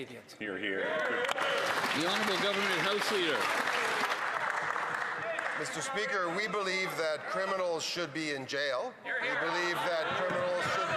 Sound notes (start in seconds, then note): 4.3 some Applause